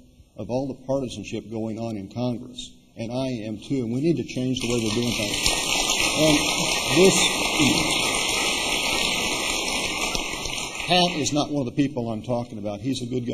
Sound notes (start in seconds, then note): 7.4 applause